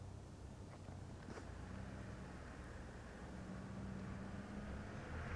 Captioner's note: engine rumbling